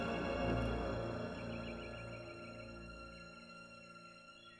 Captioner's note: birds singing